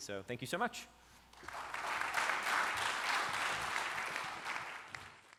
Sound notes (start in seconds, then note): 1.3 applause